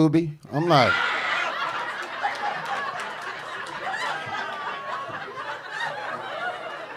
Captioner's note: audience laughing